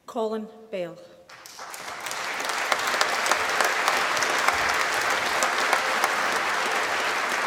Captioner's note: applause